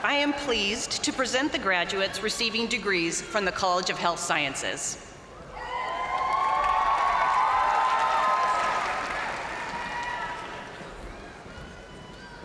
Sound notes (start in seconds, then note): 5.4 crowd cheering; 5.6 crowd applauding